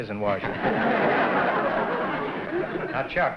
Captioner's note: laughter